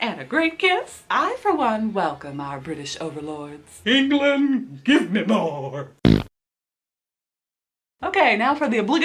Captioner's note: fart noise